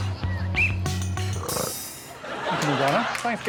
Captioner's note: whistle blows; burps